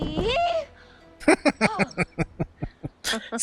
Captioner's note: laughing